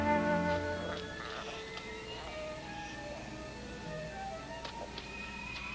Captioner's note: rustling and grunting